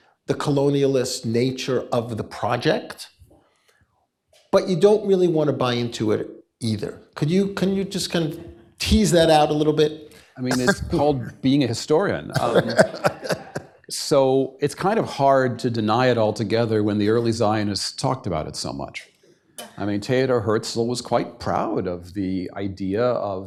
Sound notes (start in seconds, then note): 12.3 laughs